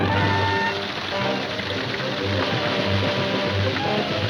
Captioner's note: hoses spraying